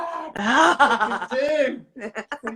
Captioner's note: laughs